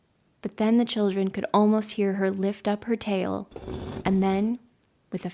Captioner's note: dragging sound